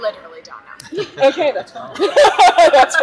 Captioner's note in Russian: смех